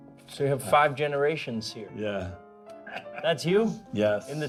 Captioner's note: all laughing